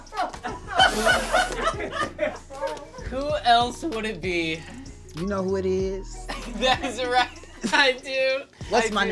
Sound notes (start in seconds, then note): 0.8 spits